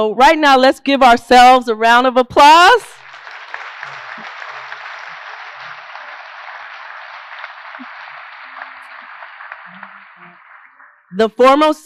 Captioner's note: applause